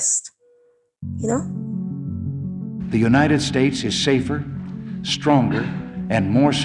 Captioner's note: soundbite of archived recording